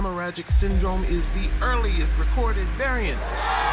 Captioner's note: crowd cheering